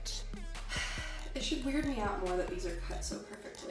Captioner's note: sighs